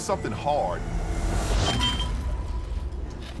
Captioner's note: metal clangs